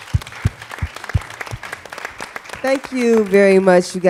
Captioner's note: applause